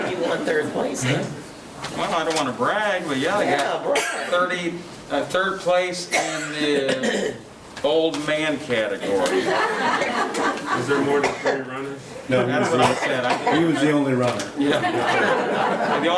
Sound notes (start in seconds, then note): 9.1 laughing; 14.6 laughing